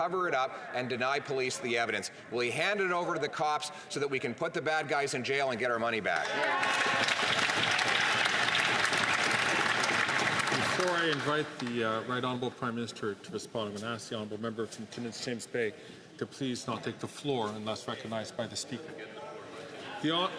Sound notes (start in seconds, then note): 11.5 some Applause